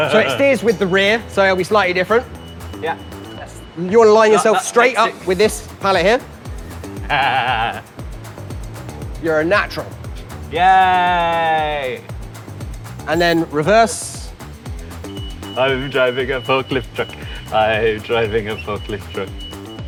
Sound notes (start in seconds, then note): 6.9 laughs deviously; 15.0 reverse beeping